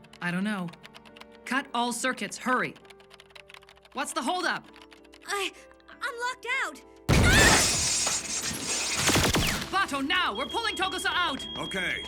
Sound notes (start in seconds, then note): 7.0 groans; 7.1 electricity fizzing